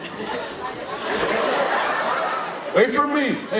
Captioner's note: audience laughing